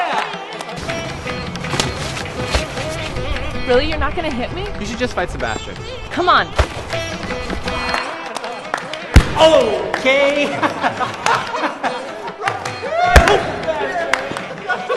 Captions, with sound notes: -Really? You're not gonna hit me? -You should just fight Sebastian. -Come on! -Oh!-kay. [GUYS LAUGHING]